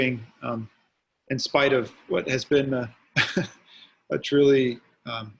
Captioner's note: laughs